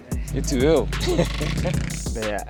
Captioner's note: laughs